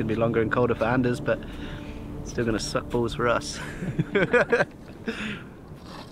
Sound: laughs

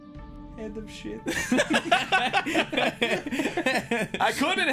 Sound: laughter

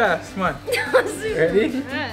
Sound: laughing

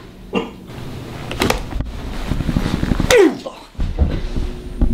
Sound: thud as the gun knocks Luke out

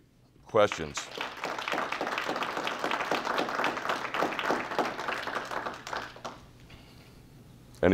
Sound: clapping

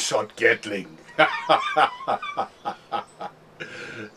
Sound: laughing

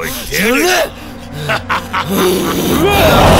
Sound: laughs

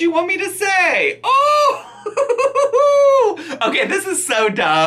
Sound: laughing

